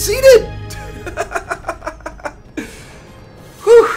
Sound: laughs

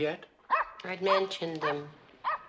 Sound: dog barks

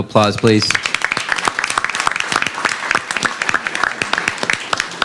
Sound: applause

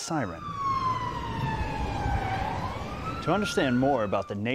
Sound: siren wailing

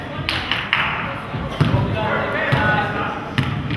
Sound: spectator claps

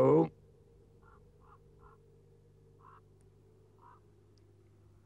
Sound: bird squawks faintly

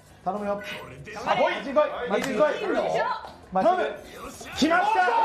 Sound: everyone's cheering for a good outcome

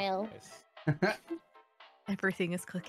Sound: laughing

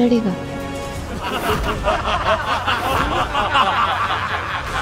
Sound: laughs

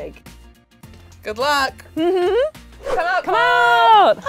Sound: laughter

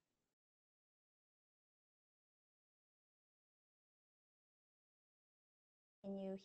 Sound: silence

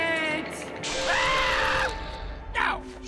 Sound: screaming

